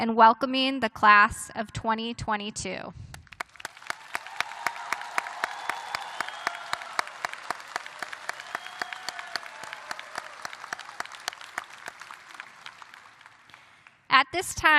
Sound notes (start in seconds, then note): 0.0 applause; 3.3 cheers and applause